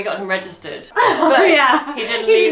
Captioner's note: laughs